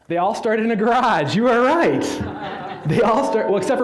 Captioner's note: audience laughing